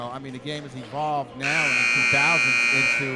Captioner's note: buzzer sounding